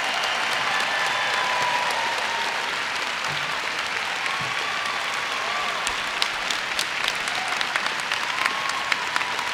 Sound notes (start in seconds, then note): 0.0 cheers and Applause